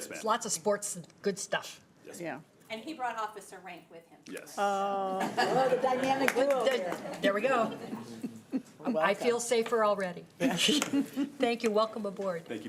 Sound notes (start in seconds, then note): 5.1 laughter